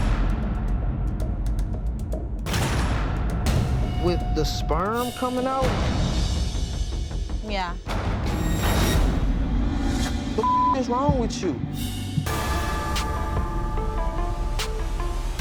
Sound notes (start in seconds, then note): 0.1 tense music; 10.4 beep; 12.4 dramatic music